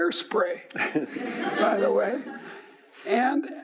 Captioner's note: laughing